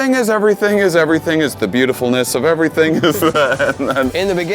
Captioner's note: laughs